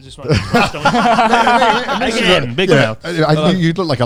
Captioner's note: all laughing loudly